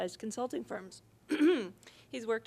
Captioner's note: coughing